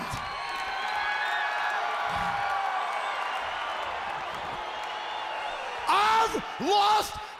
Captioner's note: crowd cheering